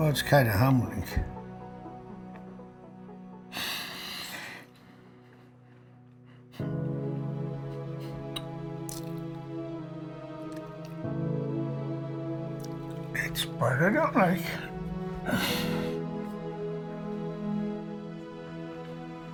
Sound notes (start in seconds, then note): 0.0 emotional music; 3.5 exhaling; 6.2 emotional music; 15.2 sniffling; 19.1 somber music